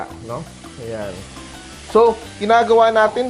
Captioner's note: sizzle